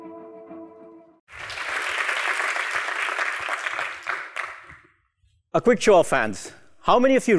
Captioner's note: applause